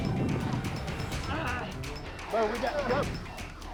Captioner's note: man grunting